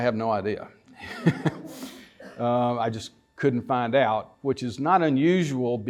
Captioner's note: laughter